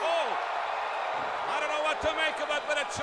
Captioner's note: crowd cheering